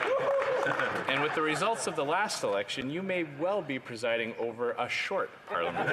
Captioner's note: laughter